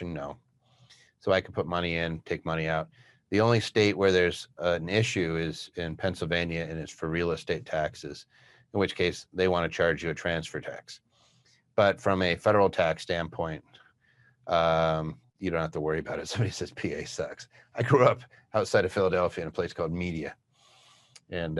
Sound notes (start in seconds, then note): 17.4 laughs